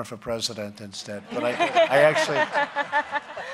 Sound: laughter

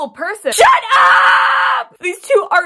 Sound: screaming

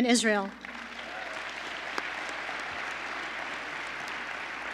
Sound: applause

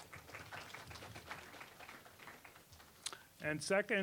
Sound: applause

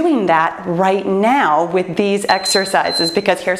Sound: timer beeps

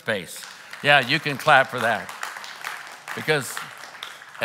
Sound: claps

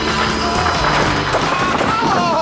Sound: groans of pain

